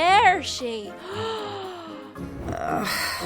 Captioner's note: gasps; groans